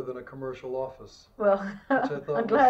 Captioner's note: laughs